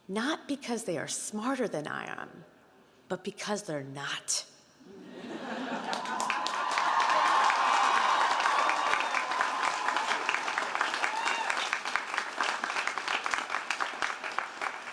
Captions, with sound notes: Not because they are smarter than I am, but because they're not. (audience cheering and applauding)